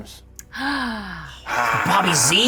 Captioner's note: Anna gasping